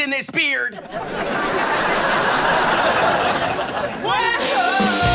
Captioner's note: audience laughing